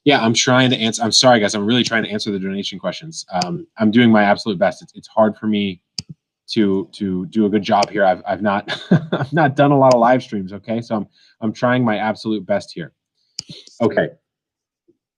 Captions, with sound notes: Yeah, I'm trying to answer. I'm sorry, guys. I'm really trying to answer the donation questions. I'm doing my absolute best. It's hard for me to do a good job here. I've not, (laughs) I've not done a lot of livestreams, okay, so I'm trying my absolute best here. Okay.